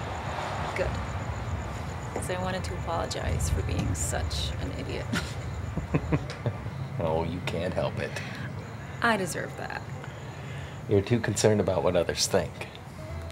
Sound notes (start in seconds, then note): 5.7 Mason laughs